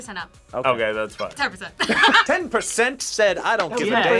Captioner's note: laughs